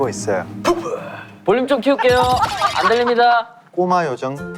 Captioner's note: laughing out loud